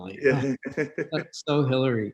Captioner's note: laughing